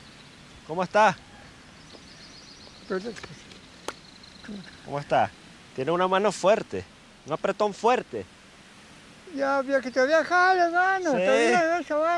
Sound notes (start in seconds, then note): 0.8 speaking foreign language